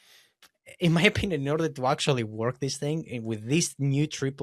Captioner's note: laughs